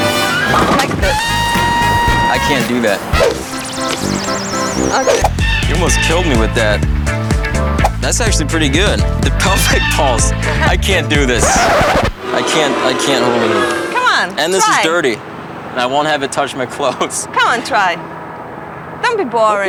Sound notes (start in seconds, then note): 3.0 sensual music; 3.6 eastern European music; 11.3 record scratch